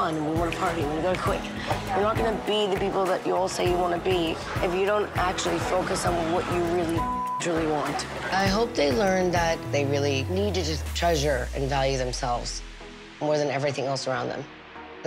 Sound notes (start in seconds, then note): 7.0 beep